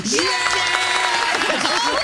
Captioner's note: cheering